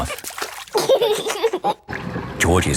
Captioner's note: giggling